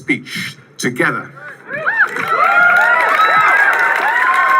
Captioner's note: cheering